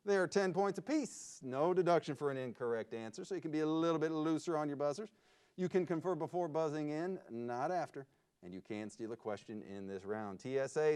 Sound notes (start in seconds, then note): none